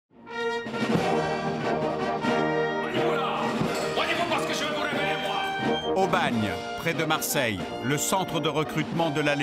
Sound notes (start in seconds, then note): 3.7 French spoken audio